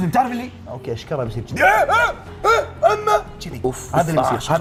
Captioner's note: shouts